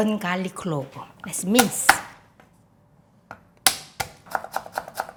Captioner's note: hand smacking; knife chopping